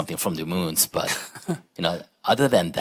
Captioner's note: laughter